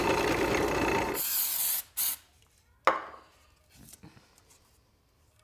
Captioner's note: can spraying